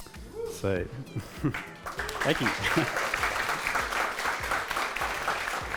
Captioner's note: audience clapping